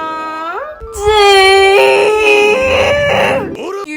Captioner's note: wistfully sighing; screaming